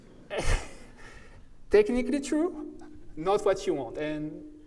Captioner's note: chuckles